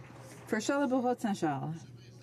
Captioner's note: some Applause